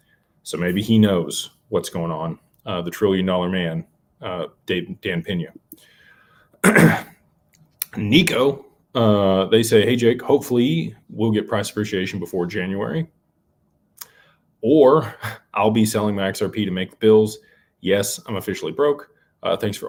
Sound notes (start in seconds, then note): 6.6 clears throat; 6.6 cough